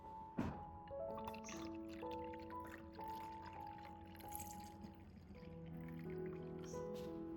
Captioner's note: water